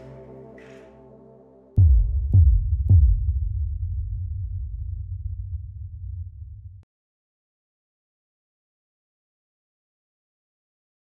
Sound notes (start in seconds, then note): 1.8 logo pounding rhythmically